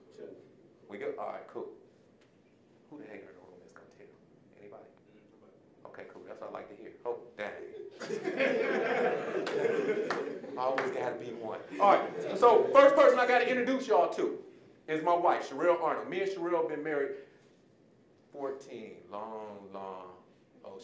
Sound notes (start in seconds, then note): 7.9 audience laughing